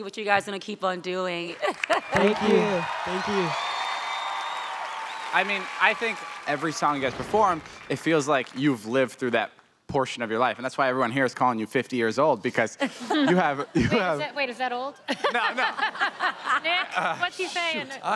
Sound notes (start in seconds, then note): 1.9 audience cheering; 15.0 all laughing